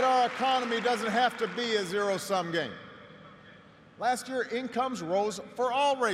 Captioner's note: applause